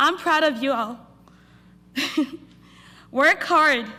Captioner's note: laughter